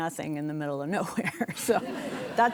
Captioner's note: chuckles